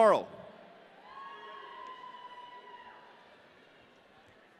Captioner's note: audience cheering